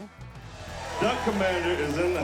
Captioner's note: crowd cheers